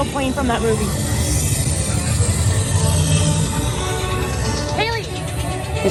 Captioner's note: smoke hissing